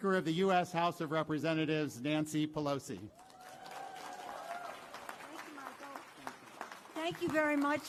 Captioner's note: applause